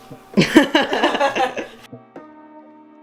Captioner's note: both laughing